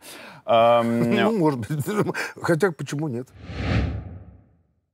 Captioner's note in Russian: смеясь